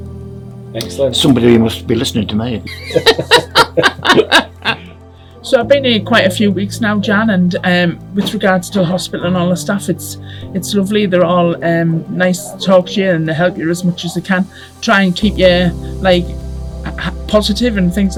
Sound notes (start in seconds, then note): 2.6 laughing